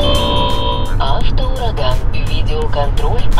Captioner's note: alarm going off